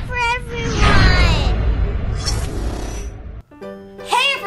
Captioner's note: whooshing